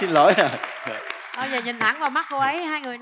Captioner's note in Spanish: Aplaudir